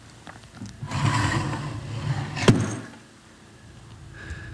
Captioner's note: drawer scraping